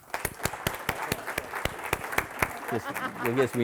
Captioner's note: audience applauding